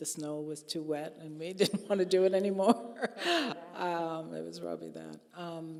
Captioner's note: laughing